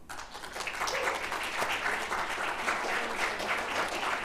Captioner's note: applause